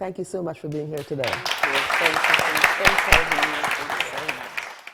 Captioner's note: audience applauding